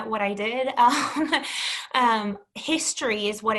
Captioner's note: chuckles